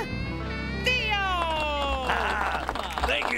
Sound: applause

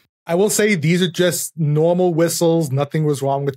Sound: none

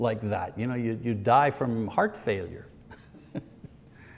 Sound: chuckles

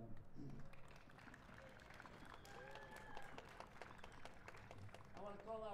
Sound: applause

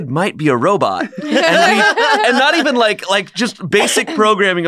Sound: laughter

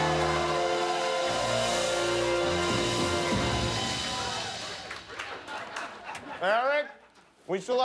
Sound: cheers and applause

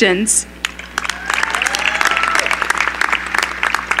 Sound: cheering

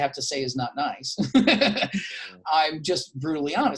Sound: laughing

